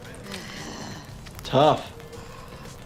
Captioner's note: deeply inhales